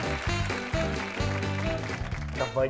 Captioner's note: applause